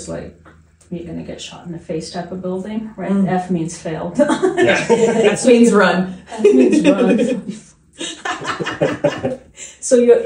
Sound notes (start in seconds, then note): 4.2 laughing; 8.0 laughing